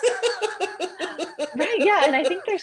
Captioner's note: laughter